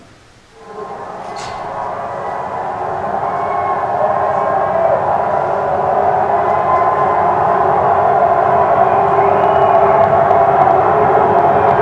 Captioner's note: muted cheering